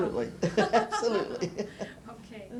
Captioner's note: laughter